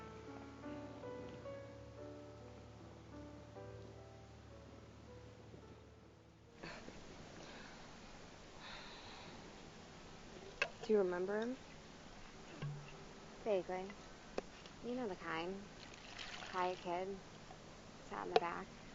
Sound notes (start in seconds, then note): none